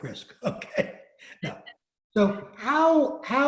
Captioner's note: laughs